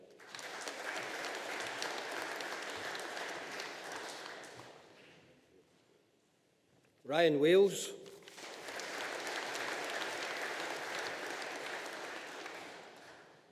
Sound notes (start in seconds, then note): 0.0 audience applauding; 8.2 audience applauding